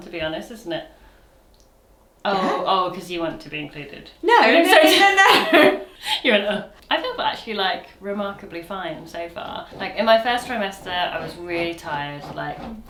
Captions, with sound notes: to be honest, isn't it? - Yeah. - Oh, oh, 'cause you wanted to be included. - No, no, no, no, no, no. (chuckles) - You're like. I feel actually like remarkably fine so far. Like in my first trimester, I was really tired, like, Tilly.